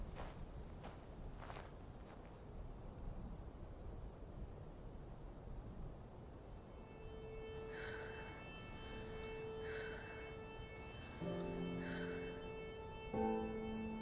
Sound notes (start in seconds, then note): 6.6 soft dramatic music; 7.6 Quinn breathes heavily